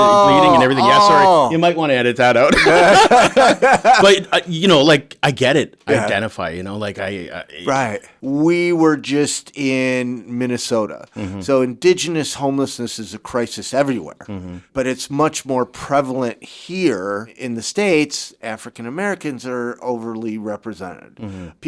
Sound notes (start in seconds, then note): 2.4 laughing